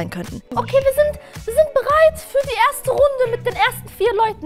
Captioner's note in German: verstellt